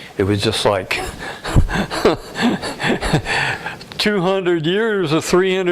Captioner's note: laughter